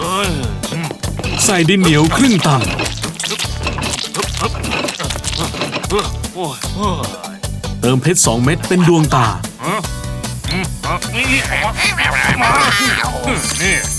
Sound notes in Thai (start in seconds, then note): 6.1 ถอนใจเหนื่อย; 11.2 เสียงเอะอะยื้อแย่ง; 12.5 ก็อบลินร้องจ๊าก